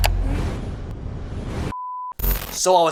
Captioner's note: mouse clicks; logo whooshing; electronic beeping